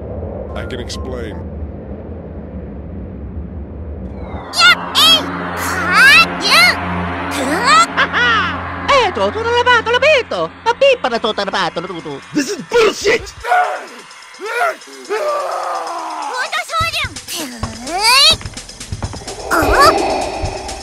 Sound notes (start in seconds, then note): 8.7 italian gibberish; 13.2 growls; 19.2 gasps; 19.2 heavy breathing